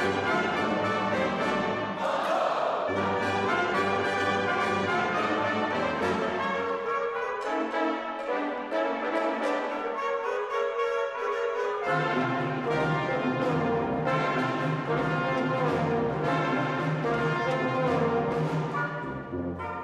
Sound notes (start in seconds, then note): 2.1 all shouting